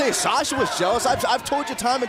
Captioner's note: fans chanting